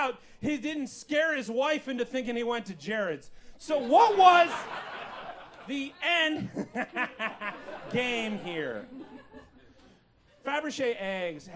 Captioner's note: hehehe